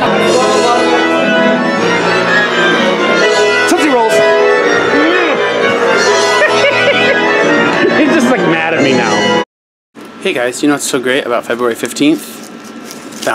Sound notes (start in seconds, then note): 0.0 symphonic music; 6.0 laughing